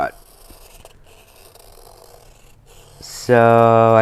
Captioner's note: pencil scrapes